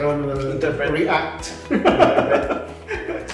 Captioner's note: laugh